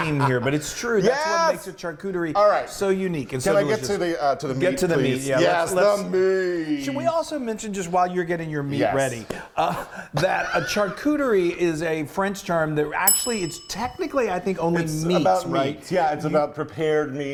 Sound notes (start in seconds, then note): 9.6 he laughs; 13.0 bell dings